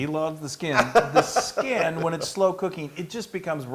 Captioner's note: laugh